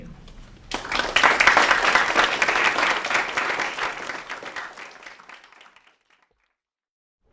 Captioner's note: applause